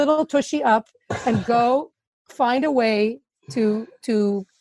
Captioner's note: laughing